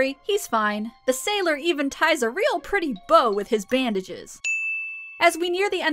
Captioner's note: ding!